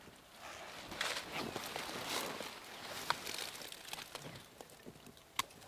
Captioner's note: hunter whispering; bushes rustling; birds tweeting; twigs snapping